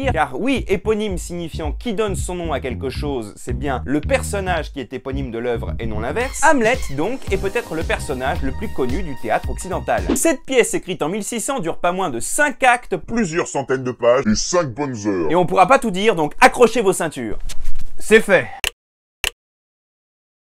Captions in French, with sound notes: Car oui éponyme signifiant qui donne son nom à quelque chose, c'est bien le personnage qui est éponyme de l'oeuvre et non l'inverse, Hamlet, donc, est peut-être le personnage le plus connu du théâtre occidental Cette pièce écrite en 1600 dure pas moins de cinq actes, plusieurs centaines de pages et cinq bonnes heures. Et on pourra pas tout dire, donc accrochez vos ceintures ! -C'est fait. (Clics)